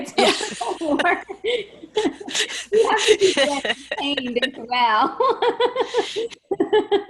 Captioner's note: laughs; laughter